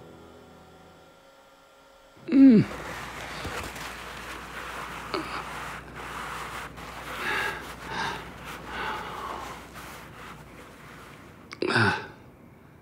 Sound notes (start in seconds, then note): 2.3 grunting